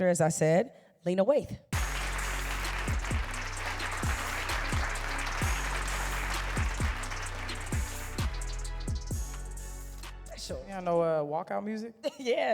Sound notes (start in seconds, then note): 1.7 applause